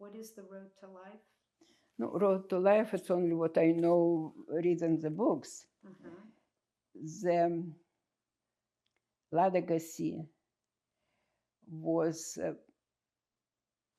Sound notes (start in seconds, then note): 8.3 russian